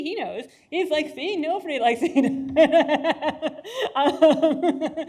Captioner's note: laughs